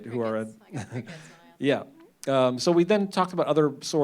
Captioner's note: chuckles